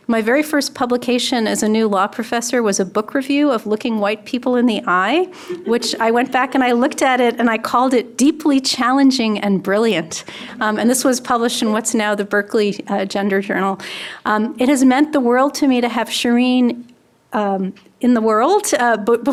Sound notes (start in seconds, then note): 5.4 audience laughing